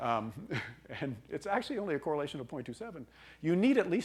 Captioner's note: laughing